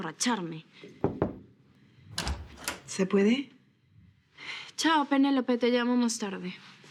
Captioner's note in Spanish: Toques en la puerta